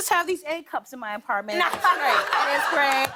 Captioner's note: laughter